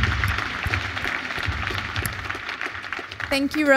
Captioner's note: applause